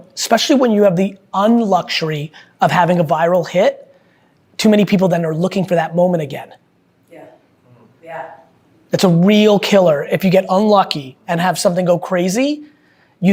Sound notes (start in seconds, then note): none